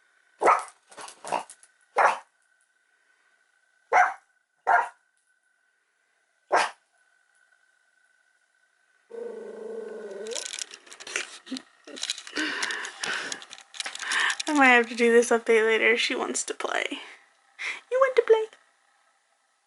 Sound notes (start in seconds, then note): 0.2 barks; 9.1 growls